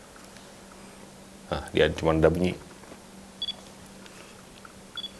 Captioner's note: buzzing